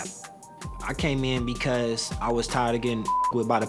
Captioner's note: beep